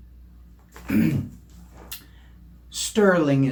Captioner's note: clears throat